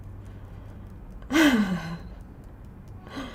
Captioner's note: chuckles